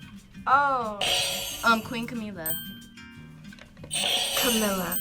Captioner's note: buzzer rings